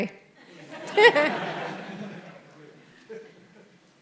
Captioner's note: audience laughs